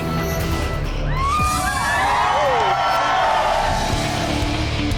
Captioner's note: crowd cheering; electronic music